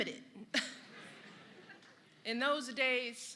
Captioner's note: laughter